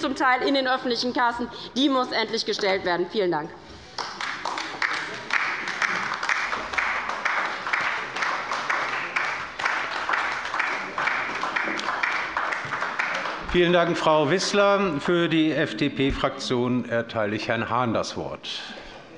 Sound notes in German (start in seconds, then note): 3.8 Beifall bei der LINKEN